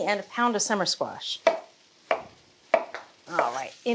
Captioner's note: knife chopping